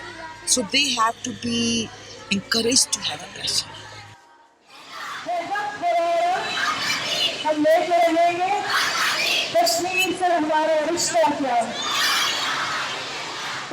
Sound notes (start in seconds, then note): 4.7 people protesting; 6.2 in Urdu